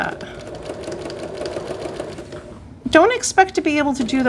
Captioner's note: sewing machine grinding